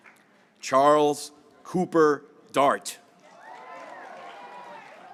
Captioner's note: graduates cheering